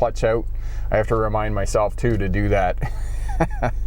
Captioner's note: laughs